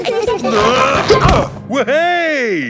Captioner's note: all giggling; grunting